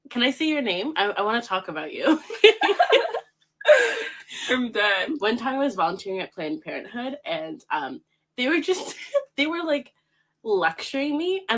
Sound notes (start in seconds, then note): 2.2 laughs